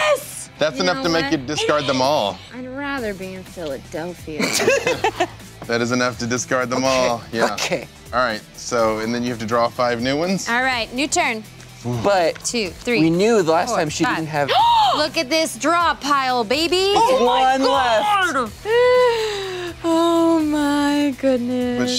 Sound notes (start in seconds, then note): 14.5 gasps